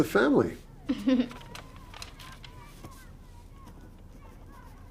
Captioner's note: Lena chuckling